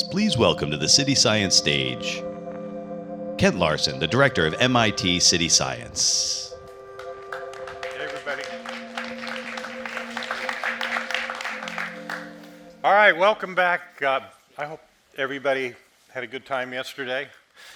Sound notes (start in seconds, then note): 6.8 audience applauding